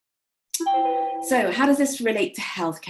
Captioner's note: computer chimes